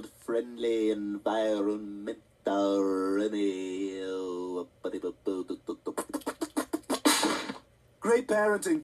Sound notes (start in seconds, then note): 5.0 smack; 5.8 blowing Raspberries